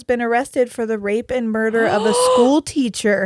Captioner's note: gasps